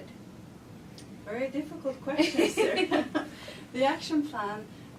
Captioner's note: laughs